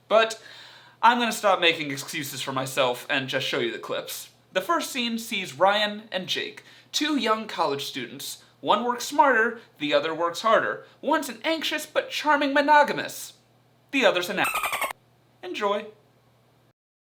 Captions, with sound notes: But, I'm gonna stop making excuses for myself and just show you the clips. The first scene sees Ryan and Jake, two young college students, one works smarter, the other works harder. One's an anxious, but charming monogamist. The other's an (monkey chitters). Enjoy.